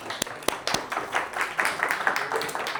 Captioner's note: audience applauding